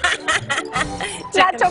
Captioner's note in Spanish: risas